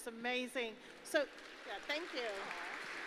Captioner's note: applause